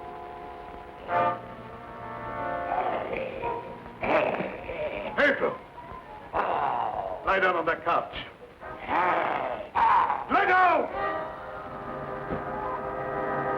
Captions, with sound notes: (wolfman growling) - Petro, lie down on that couch. (wolfman snarling) Lie down! (dramatic music)